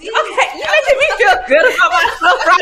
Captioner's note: laughing